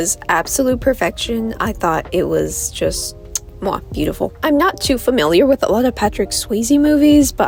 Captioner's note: kiss